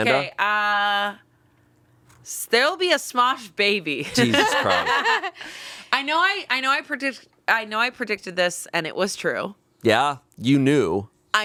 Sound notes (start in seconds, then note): 4.1 all laughing